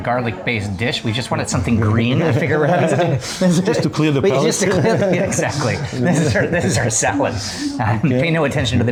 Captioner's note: laughing